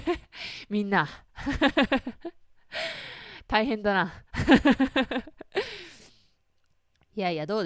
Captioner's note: laugh